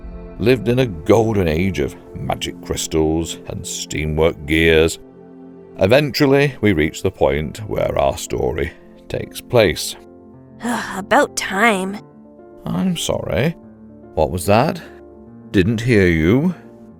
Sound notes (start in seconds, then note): none